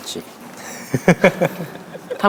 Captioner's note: Na Pilot gives a hoarse laugh